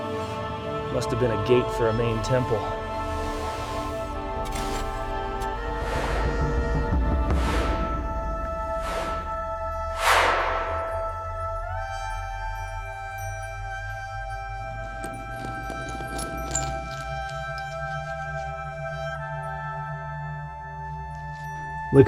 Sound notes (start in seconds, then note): 4.4 shovel thuds; 9.3 instrumental music plays